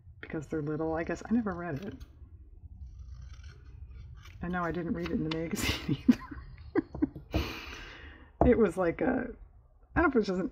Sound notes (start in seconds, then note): 5.6 laughs